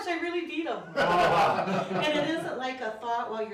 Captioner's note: laughing